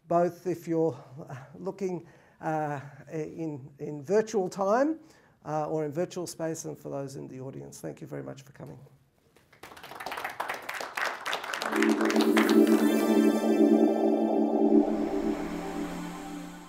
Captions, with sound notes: Both if you're looking in virtual time or in virtual space and for those in the audience, thank you very much for coming. [APPLAUSE]